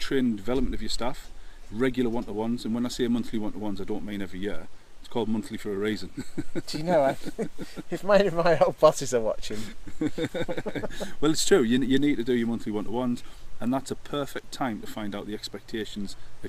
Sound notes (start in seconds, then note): 8.1 laughter